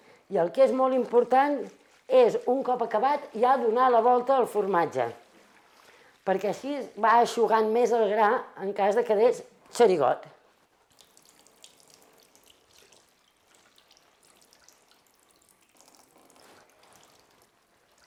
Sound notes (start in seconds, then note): 13.5 liquid dripping